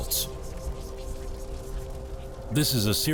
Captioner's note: static hissing